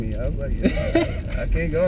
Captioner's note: laugh